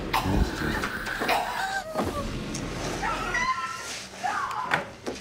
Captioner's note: mummy growling; Martha gasping